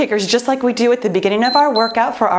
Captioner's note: timer beeps